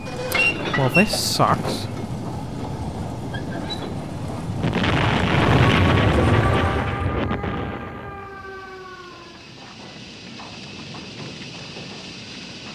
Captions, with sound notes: Well this sucks [OUT OF KNOWHERE EXPLOSTION!] (Loud Scream) [Distant fire trucks and burning rubble]